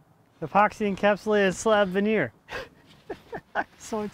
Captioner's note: laughs